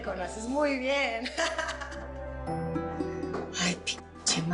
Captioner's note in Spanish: Risas